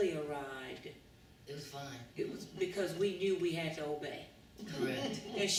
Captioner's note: laughter